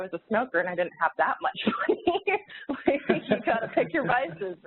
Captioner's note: laughs